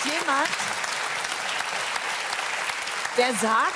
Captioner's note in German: Beifall